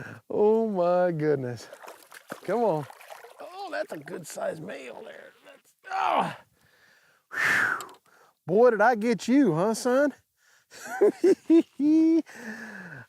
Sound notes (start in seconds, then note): 5.9 grunting; 5.9 sighs; 10.8 laughs